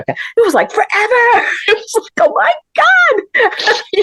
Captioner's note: laughter